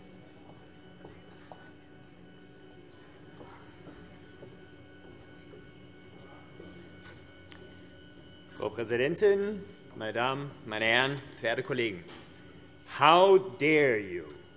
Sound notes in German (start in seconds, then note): none